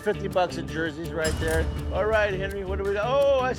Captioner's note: cash register dings